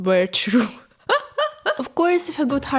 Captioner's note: scary laugh